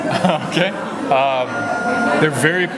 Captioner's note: laughs